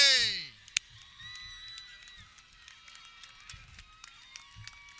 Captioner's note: audience cheering